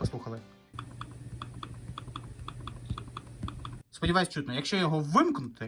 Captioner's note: clicking sounds